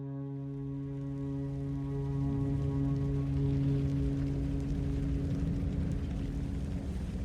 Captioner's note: flames crackling; wing howling